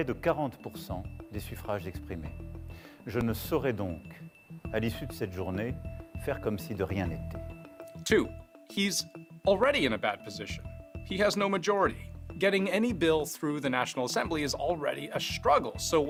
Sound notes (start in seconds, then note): 6.3 speaking french